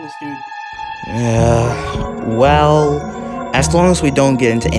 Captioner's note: groans